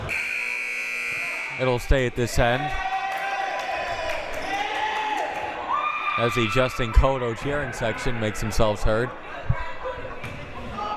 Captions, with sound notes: (buzzer) It will stay at this end. (cheering) As the Justin Cotto cheering section makes themselves heard.